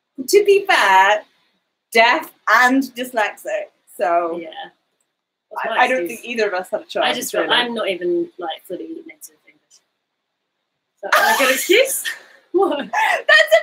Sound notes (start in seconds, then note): 8.0 speaks quietly; 12.6 laughing